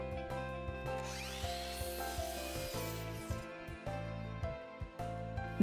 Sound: miter saw buzzes

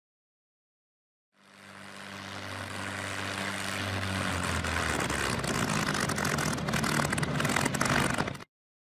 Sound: aircraft engine sputtering to a stop as it gets closer

